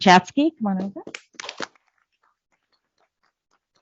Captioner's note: applause